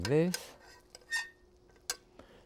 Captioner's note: spoon scraping